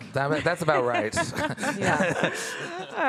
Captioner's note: laughing